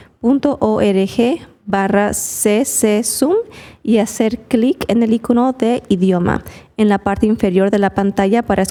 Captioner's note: spanish